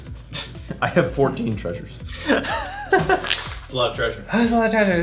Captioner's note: laughing